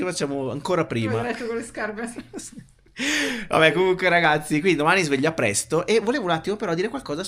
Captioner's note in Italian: risate